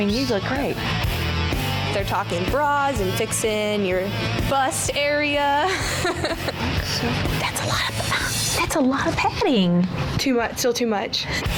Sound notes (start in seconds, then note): 5.6 laughs; 11.3 rock music